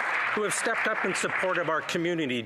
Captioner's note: applause